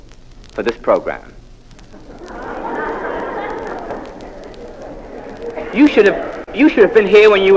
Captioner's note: laugh